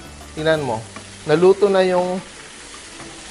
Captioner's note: sizzle